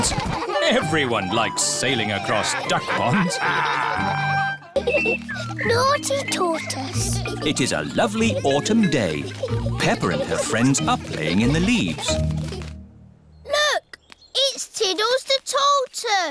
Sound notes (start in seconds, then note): 3.1 all laughing